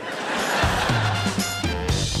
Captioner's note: audience laughs; upbeat music